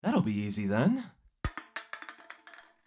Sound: can clangs

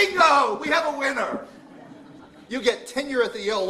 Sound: laughter

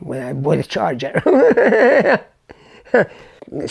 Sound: laughs

